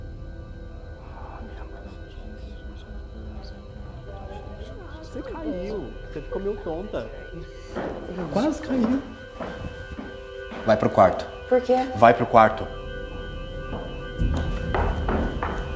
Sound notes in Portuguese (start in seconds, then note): 2.0 reza baixo